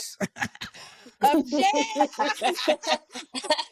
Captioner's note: laughing